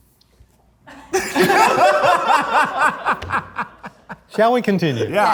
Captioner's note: group laughs